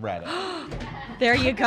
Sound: gasps and laughs

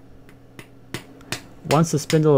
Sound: tapping

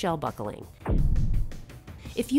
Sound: loud thud

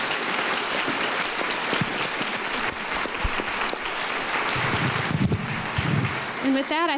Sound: applause

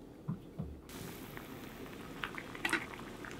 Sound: boiling broccoli

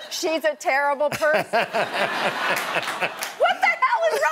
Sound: laughter

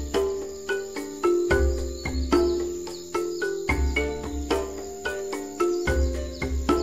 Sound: birds calling; insects chirp

